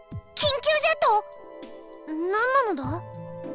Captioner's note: none